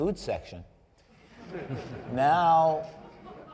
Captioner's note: laughing